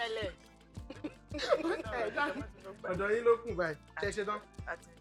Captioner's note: everyone laughs